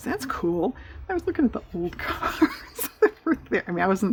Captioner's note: laughs